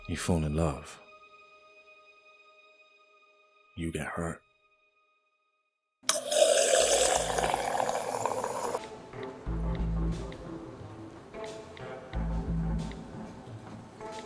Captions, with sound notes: You fall in love, you get hurt. (liquid sprays) (dramatic music)